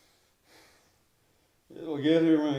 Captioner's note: Austin sighs